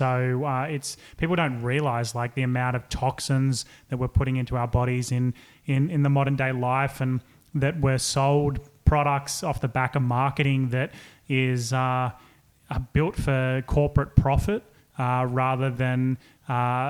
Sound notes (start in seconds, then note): none